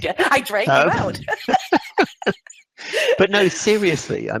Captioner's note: laughs